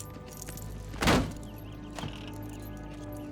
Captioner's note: door thuds; suspenseful music continues